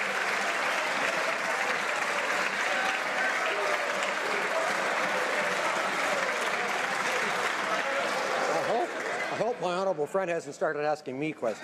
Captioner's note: some Applause